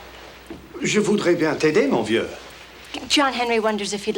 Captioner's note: John speaks French